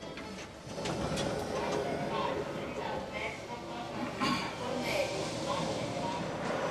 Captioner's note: automated announcements